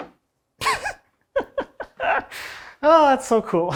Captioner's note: laughing